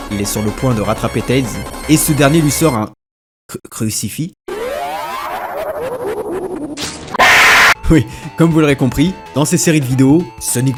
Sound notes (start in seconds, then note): 4.5 haaaaaahahahahahaha; 7.1 scream